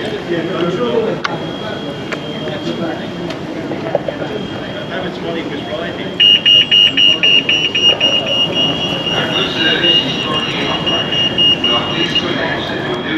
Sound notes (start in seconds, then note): 1.7 crossing beeps